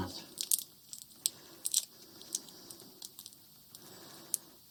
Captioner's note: tape crinkling